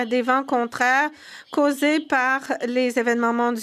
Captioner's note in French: voix de l'interprète